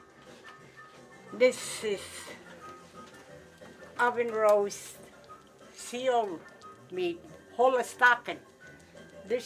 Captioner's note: indigenous language spoken